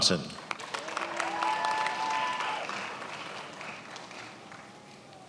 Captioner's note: attendees applauding